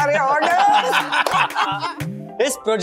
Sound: everyone laughing

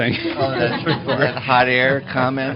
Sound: laughter

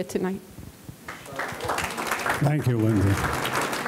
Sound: audience clapping

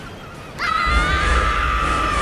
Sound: crashing

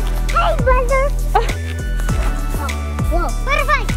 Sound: laughing

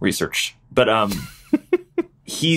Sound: laughs

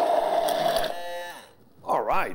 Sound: blender spinning

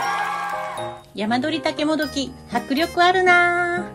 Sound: applause

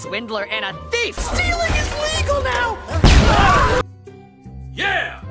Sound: explosion

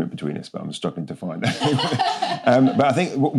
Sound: laughter off camera

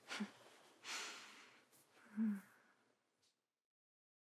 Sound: laura softly sighs

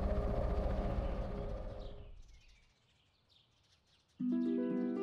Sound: birds chirping

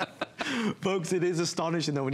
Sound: laughter

